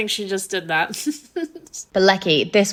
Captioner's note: laughing